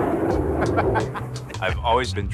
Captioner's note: laughs